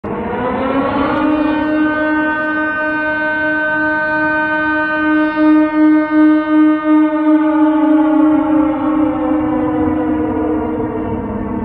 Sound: air raid siren

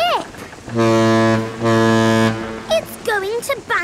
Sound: ship horn blowing

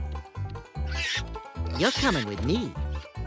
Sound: pig squeals

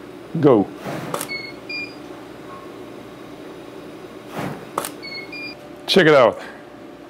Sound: camera beeping and snapping, fire whooshing

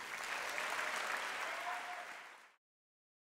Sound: applause and cheering

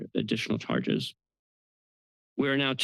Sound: pause

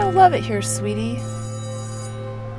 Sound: bell rings

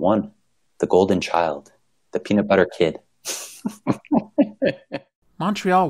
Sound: laughter

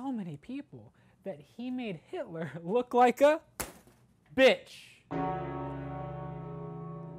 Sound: bell tolls

